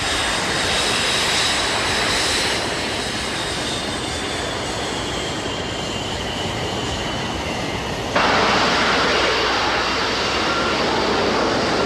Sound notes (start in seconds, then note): 8.7 plane noise